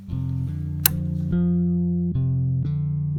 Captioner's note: click!